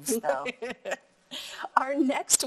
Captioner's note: laughing